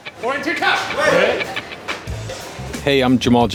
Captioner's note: chefs shouting